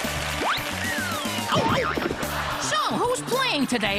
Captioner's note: chudd exclaims